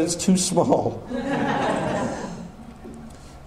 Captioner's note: audience laughter